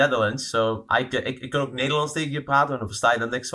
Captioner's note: speaking Dutch